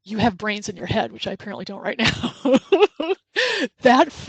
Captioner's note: laughs